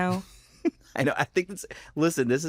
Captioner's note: chuckles